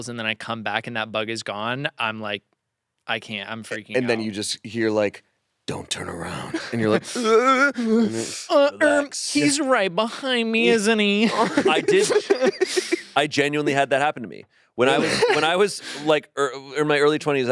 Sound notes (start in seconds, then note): 11.2 laughs; 14.9 laughs